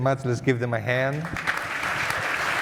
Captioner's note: applause